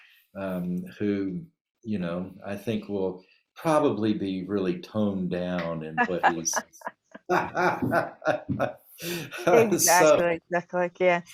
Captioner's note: laughter